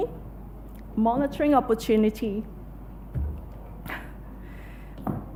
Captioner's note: laughs